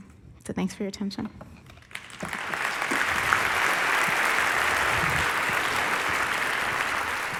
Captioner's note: applause